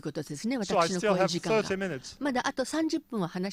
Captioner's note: en anglais dans le speech